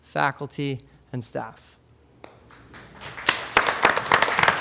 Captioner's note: applause